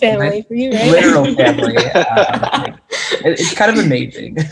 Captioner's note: group laughing